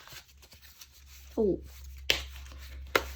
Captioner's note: drawing cards